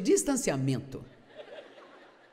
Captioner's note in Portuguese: audiência ri